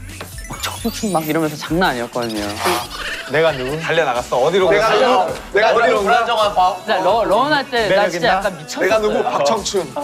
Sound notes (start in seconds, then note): 2.4 laughs